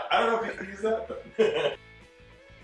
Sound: laughter; laughs; fast upbeat music

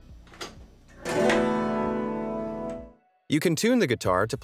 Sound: strings buzzing; metal rubbing; upbeat music

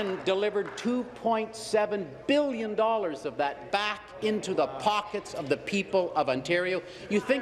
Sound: applause

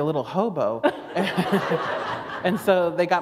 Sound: laughter

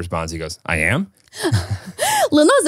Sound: laugh

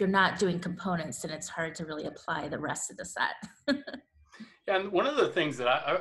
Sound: laughs

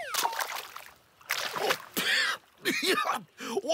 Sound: sputtering and coughing

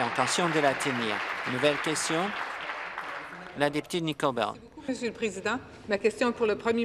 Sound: applause

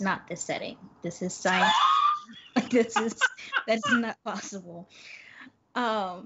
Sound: Brennan guffaws

